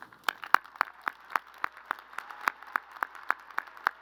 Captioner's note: crowd applauding